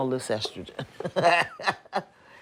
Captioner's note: laughs